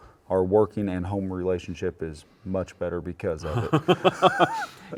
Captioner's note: both laughing